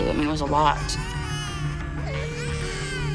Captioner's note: children crying